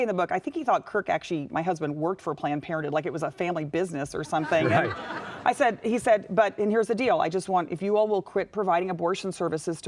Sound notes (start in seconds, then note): 4.4 audience laughing